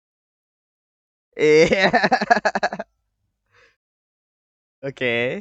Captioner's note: laughing